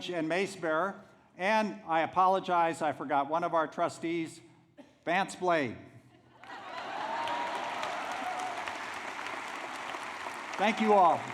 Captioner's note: applause